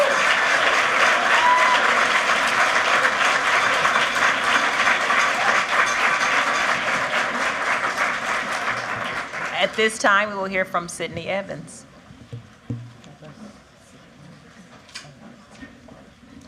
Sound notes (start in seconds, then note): 1.8 cheering; 4.2 applause